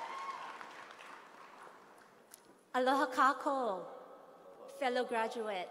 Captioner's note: applause; speaking hawaiian